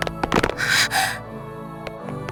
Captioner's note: gasp